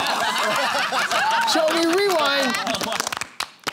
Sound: laughter

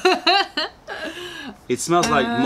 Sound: laughter

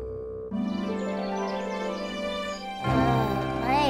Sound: birds chirping

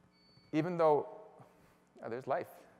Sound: beeping

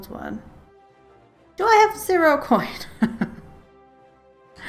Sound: laughs

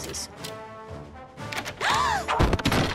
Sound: gasping

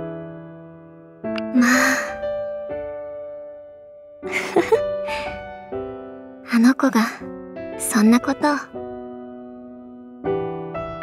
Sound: chuckle

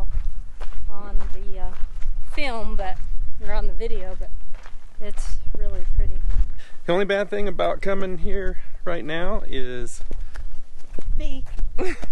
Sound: laugh

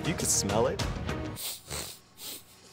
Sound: sniffing

